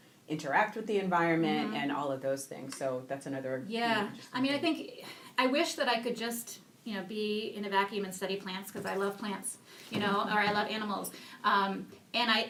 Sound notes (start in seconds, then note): 4.9 sighs